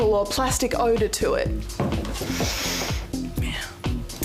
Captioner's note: sniffs